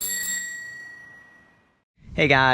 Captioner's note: bike bell dinging